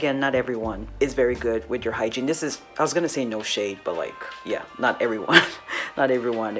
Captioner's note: chuckles